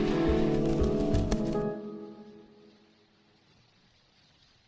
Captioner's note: water splashing; wind blowing